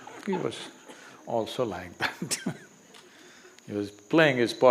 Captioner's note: laughter; laughs